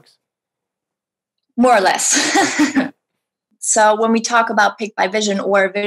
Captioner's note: laughs